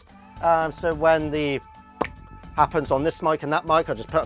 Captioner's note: snaps fingers